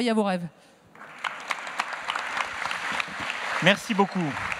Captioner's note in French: Applaudissements